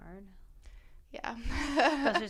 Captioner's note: laughter